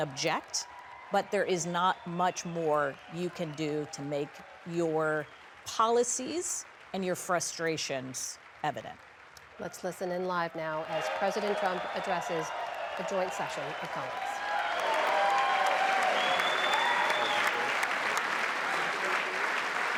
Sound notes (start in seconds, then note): 13.9 applause; 13.9 cheering